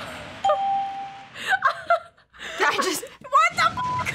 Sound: bell rings; laughs

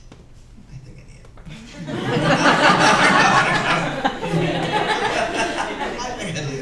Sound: laughter

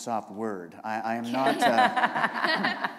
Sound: laughter

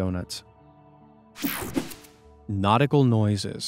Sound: image whooshing

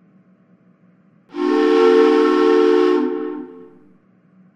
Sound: train whistle

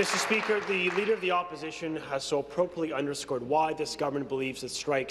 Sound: applause

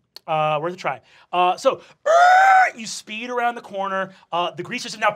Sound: screeches

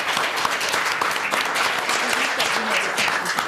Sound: applause

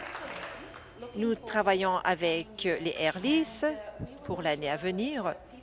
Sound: applause

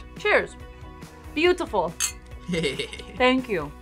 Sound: laughs

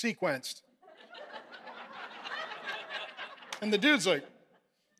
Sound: congregation laughing

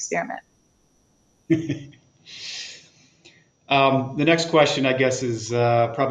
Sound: chuckles

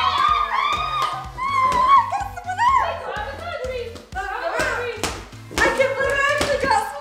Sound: screaming; ball bouncing; laughing

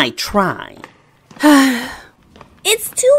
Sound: annoyed sigh

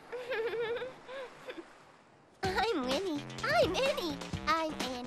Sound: giggling

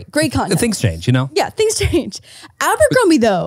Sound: chuckles

